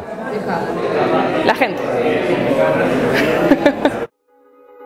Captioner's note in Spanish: ríe